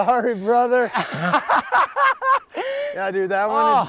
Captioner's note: laughs